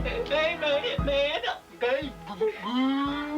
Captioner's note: blabbering